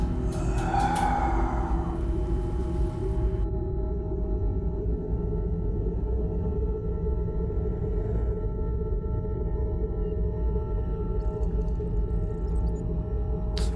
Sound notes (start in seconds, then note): 0.0 Jack sighs